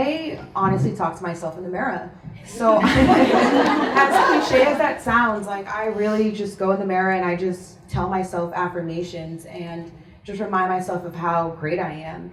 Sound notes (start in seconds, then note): 2.6 audience laughs